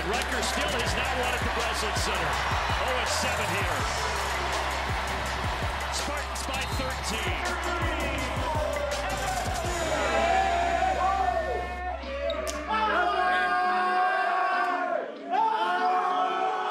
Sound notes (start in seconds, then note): 4.0 crowd cheers; 10.2 team cheering; 12.6 team yelling